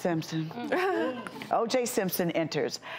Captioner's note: laughing